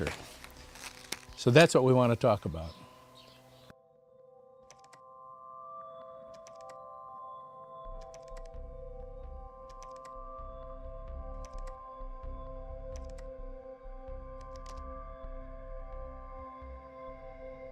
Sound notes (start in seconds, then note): 5.6 instrumental music plays; 6.3 keyboard typing sounds